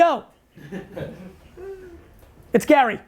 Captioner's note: group laughs